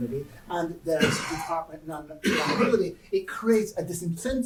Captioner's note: cough drowns out speaker